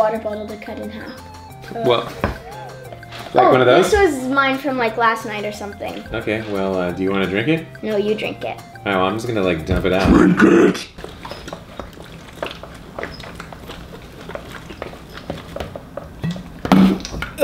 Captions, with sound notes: - Oh, I forgot we need a water bottle to cut in half. - Like one of those? - This is mine from last night or something. - Okay, well do you want to drink it? - No, you drink it. - I'm just gonna dump it out. - [Growling] Drink it!